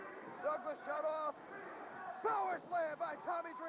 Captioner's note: crowd chatter